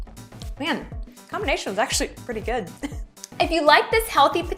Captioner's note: laughs